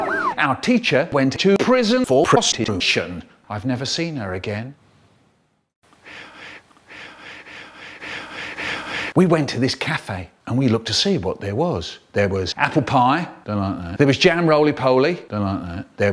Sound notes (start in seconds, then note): 0.0 faint Police Sirens; 6.0 Michael breathing forwards in backwards; 6.0 awkward Reversed Breathing; 8.0 louder Awkward Reversed Breathing